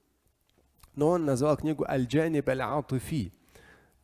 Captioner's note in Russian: говорит на арабском